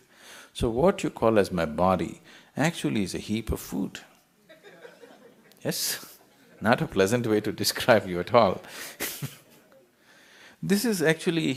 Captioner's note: يضحك